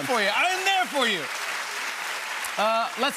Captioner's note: applause